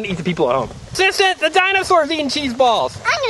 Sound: voiceover

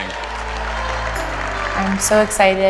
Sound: crowd cheering

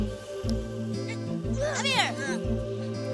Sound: grunting

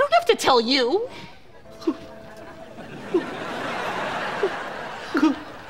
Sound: crying

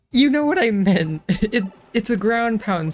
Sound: giggle

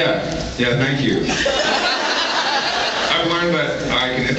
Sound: laughs

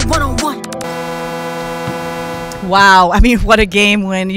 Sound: buzzer blares

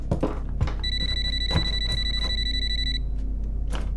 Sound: telephone ringing

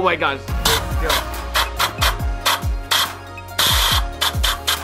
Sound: air blowing

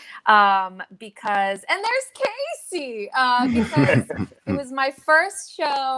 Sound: members laugh

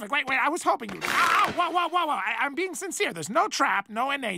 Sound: bone cracking noises

